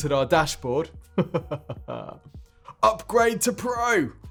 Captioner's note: chuckles